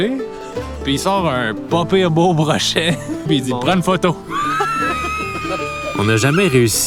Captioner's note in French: rires